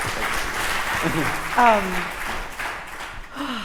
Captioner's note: applause